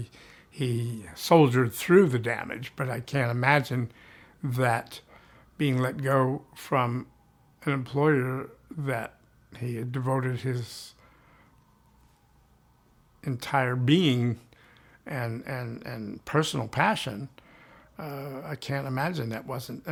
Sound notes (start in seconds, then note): none